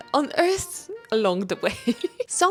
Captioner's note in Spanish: risas